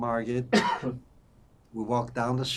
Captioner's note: coughing